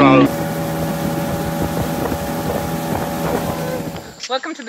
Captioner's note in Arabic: طنين محرك القارب